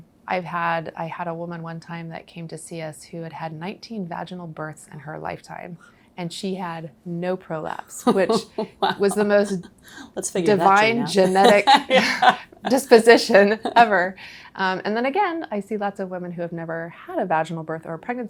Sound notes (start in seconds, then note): 8.0 laughing